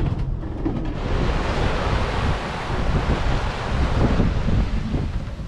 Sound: waves crashing; wind blowing

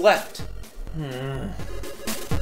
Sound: groans

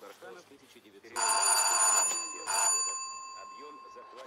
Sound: doorbell rings

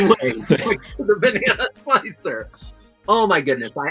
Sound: laughing

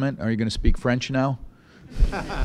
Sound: laughter

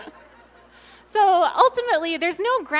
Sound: laughter

